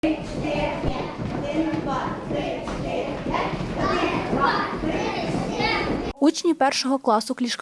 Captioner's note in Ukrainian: Шум дітей